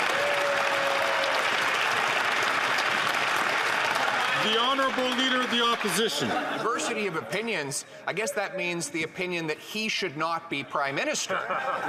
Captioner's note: some Applause